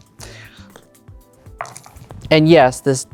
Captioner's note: dice rattling, then rolling; dice clattering in cup